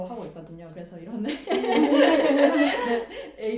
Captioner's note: laugh